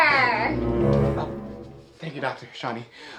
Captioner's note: ominous sound